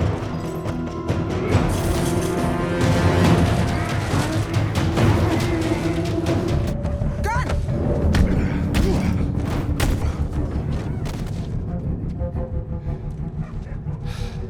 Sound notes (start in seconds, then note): 0.1 fighters grunting; 0.1 suspenseful music; 8.3 dramatic music; 9.4 punching sound